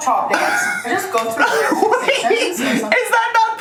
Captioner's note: laughs